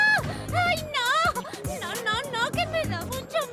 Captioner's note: wailing